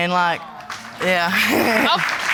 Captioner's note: audience clapping; chuckles